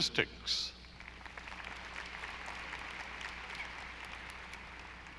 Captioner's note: audience applauding